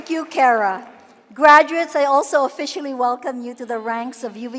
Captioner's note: cheering and applause